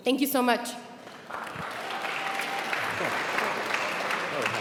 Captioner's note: applauding